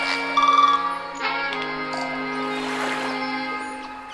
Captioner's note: saxophones; waves lapping; birds chirping